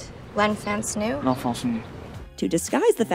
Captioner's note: in French accent